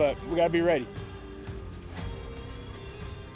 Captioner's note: hoofbeats